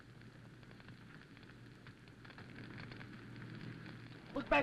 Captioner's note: fire crackling